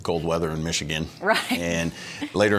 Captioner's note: chuckling